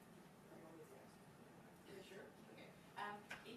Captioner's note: speaks faintly